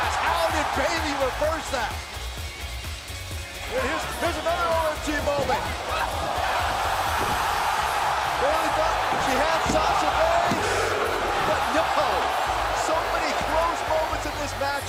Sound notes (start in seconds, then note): 6.1 crowd cheering